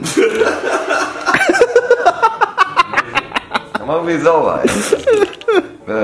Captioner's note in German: Gelächter